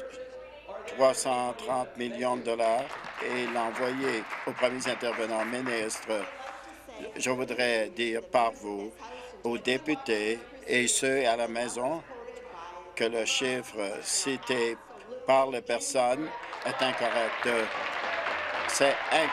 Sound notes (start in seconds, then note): 5.6 applause